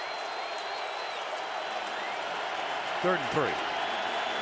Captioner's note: cheering, whistling